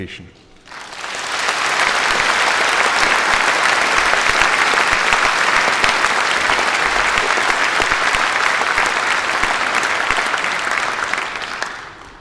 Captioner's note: applause